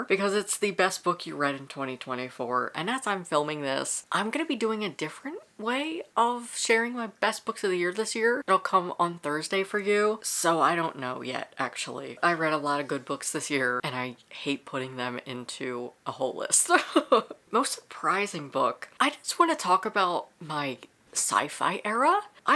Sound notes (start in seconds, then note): 16.9 laughs